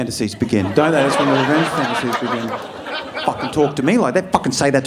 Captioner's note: audience laughing